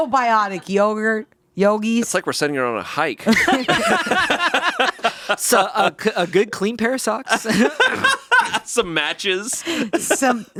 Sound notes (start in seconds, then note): 3.2 all laughing; 7.2 laughing